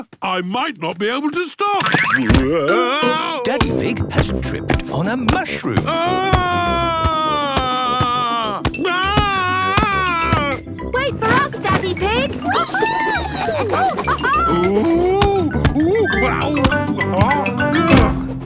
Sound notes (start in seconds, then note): 5.8 shouting; 13.8 laughing